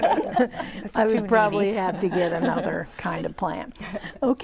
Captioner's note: laughing